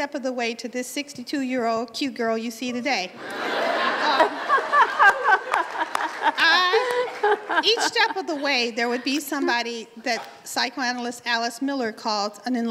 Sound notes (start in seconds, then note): 3.1 laughter